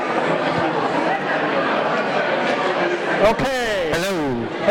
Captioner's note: audience conversing